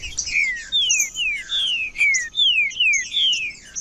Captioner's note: trinca ferro cantando